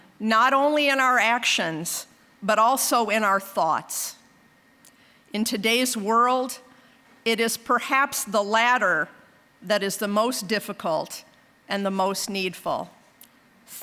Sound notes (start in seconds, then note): none